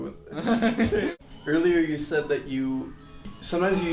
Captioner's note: laughs